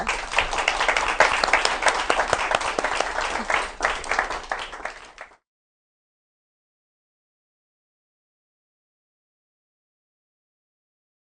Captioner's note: applause